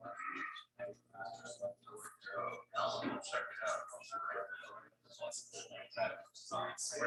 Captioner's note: people chattering indistinctly continues